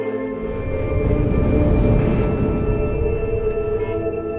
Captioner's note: engine humming